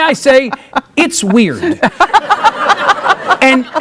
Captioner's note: laughing